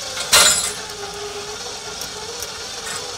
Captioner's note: clanking